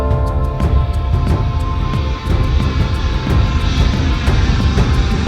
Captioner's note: jet engine roaring